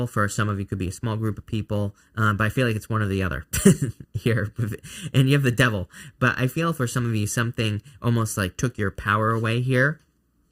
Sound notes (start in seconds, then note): 3.5 chuckles